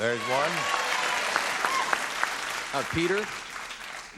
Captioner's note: applause